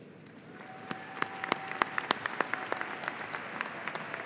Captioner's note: audience applauding